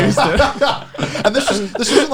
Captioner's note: laughs